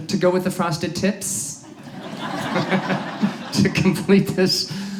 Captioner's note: audience laughs